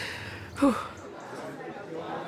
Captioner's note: exhales sharply